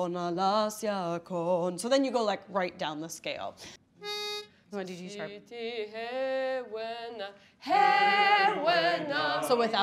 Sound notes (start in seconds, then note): 4.0 blows pitch note; 4.1 speaking faintly; 6.2 singing in foreign language